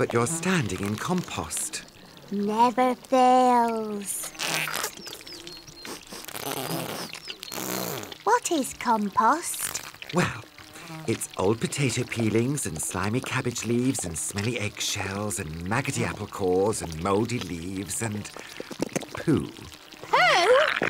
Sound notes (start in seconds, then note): 4.0 squelching; 5.8 sniffs